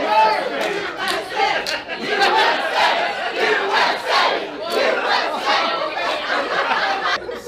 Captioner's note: audience chants